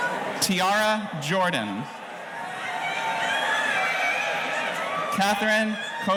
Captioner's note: audience cheering